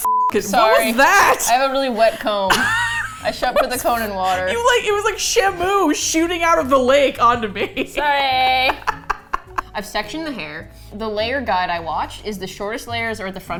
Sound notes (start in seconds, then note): 0.4 laughs; 7.2 laughs